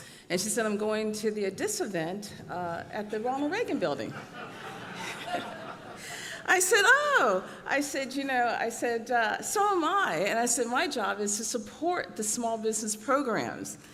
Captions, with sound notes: And she said I’m going to the DISA event at the Ronald Regan Building. ( audience laughs ) I said, oh. I said, you know-- I said, so am I. And I said, my job is to support the small business programs.